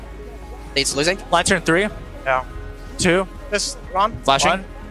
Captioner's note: teammates communicating